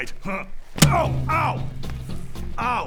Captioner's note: thud